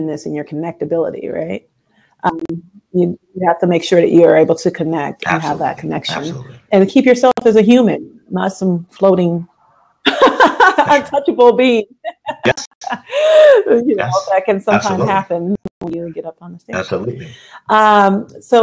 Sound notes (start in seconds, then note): 12.1 laughs